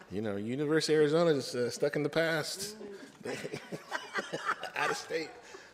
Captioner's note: laughter